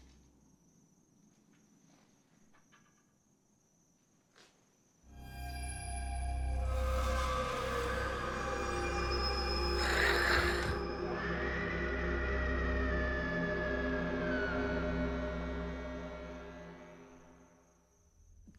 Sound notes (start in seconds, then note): 5.2 frightening music; 9.6 hissing; 11.3 screaming